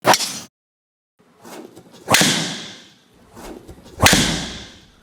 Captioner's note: golf swing swooshes